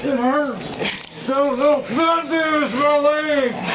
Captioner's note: muffled shouting